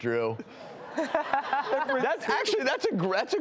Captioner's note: audience laughter